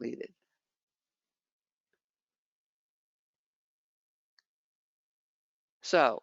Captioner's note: 5 seconds pause